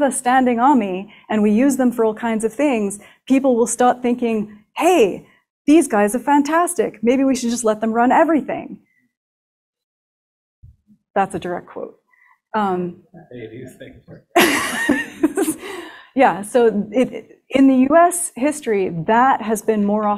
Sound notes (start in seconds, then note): 13.2 laughs